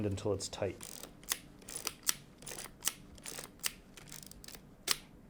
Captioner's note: camera whirring